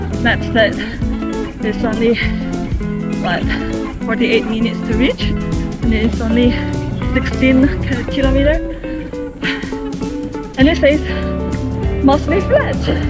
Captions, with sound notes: Maps said... 地图说。。。 There's only... what, 48 minutes to reach? 大概。。。48分钟左右就能到？ And it's only 16km. 而且只有 16 公里。 *sigh in going uphill* *叹气着爬坡* And it says... 它还说。。。 mostly flat! 大部分是平路！